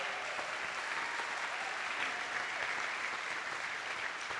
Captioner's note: attendees applauding